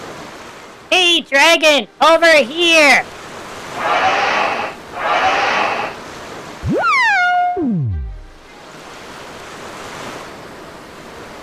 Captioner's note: yelling